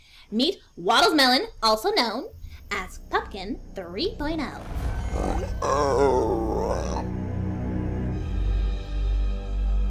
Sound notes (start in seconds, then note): 4.5 snorting